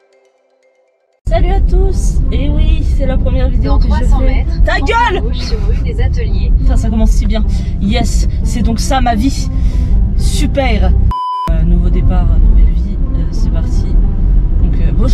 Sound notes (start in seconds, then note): 11.1 beep